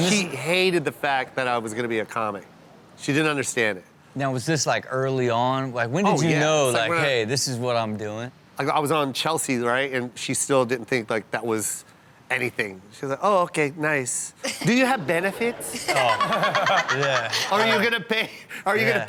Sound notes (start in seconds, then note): 15.6 Chanel laughs